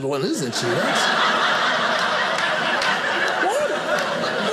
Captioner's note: audience laughing